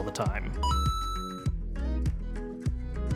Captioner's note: video game ding